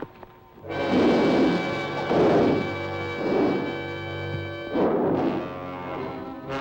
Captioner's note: dramatic music; lizard bellowing